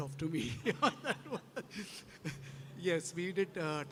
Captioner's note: laughing